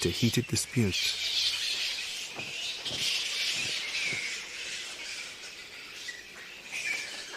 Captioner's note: bats squeaking